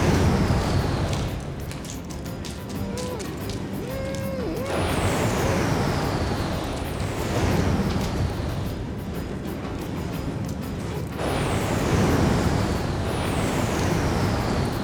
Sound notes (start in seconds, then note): 2.8 muffled moaning